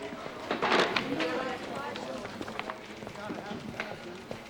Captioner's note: indistinct chatter